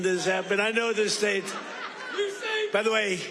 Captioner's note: laughter